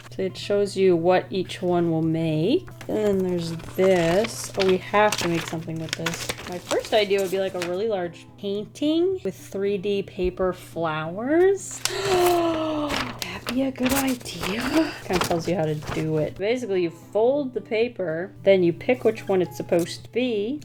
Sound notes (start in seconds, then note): 11.8 gasps